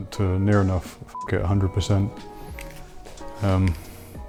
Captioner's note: beep